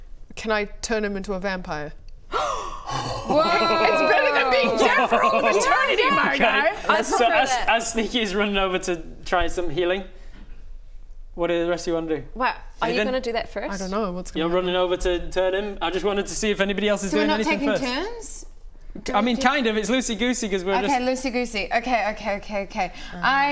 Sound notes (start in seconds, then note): 3.8 horrified gasp!; 3.8 excited ooh